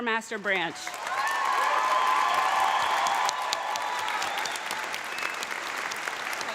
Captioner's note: audience applauding; audience cheering